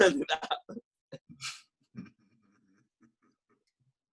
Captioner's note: laughs